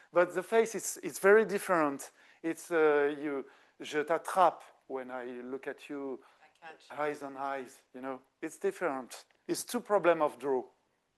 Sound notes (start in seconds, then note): 3.9 speaking French